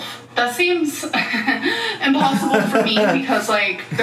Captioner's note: laughs